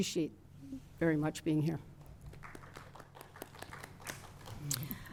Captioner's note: applause